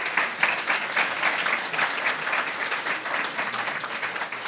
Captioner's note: applause